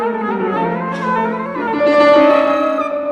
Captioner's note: none